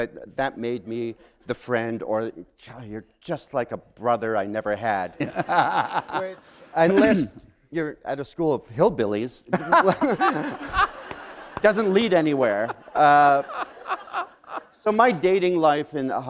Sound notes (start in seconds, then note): 5.2 laughter; 9.5 laughter